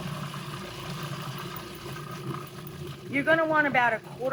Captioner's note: mixer grinding